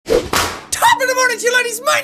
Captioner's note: whapoosh